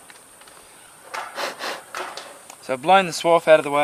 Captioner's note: blowing